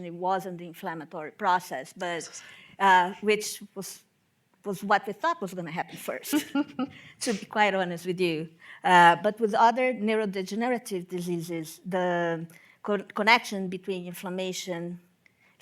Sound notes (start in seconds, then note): 6.3 both laugh